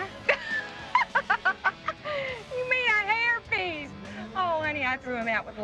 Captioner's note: laughing